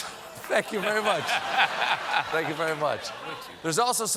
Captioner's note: laughter